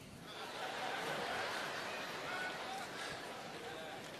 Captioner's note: audience laughs